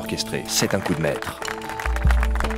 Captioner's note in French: applaudissements